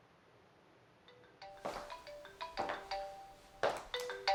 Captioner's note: phone ringing